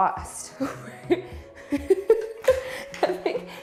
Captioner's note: laughing